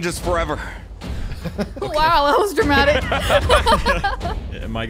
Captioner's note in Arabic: يضحك